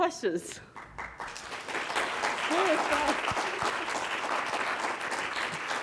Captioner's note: congregation clapping